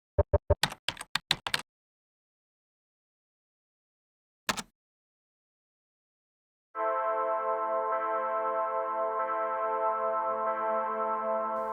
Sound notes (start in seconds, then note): 0.6 typing; 6.8 ominous music